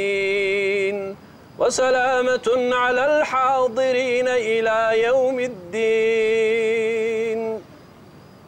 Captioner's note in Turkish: Arapça kuran okunuyor